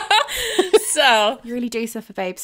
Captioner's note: laughing